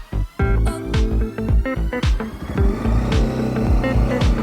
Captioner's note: upbeat music; engine noise